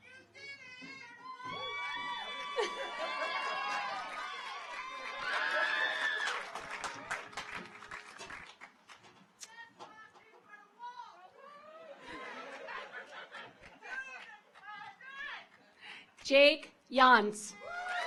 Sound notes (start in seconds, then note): 1.3 audience cheers